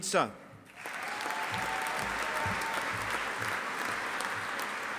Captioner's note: audience applauding